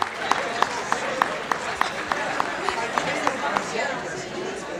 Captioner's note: general room chatter